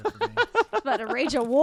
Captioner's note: laughing